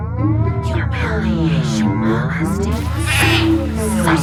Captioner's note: sheep cries